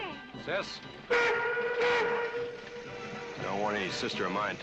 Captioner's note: train horn blowing